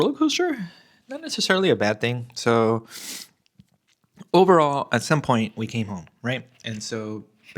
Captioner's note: snorts